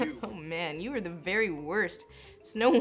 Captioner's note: laughs